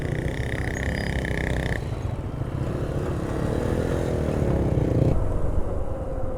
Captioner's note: motorcycle sound